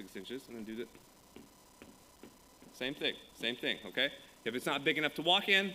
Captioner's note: foot stamping